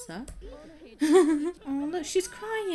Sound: laughs

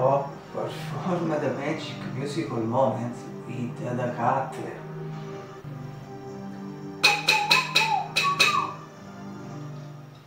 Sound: whistle

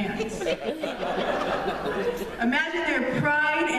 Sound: laughter

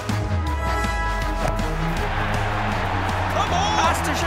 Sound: crowd cheers

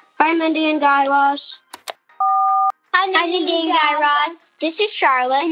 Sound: soundbite of beep

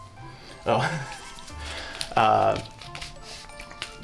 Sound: laughs

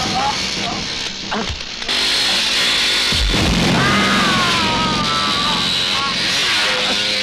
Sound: bike Engine Sound

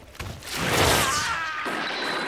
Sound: screaming

